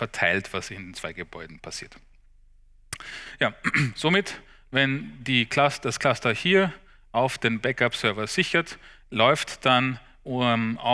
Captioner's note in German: räuspern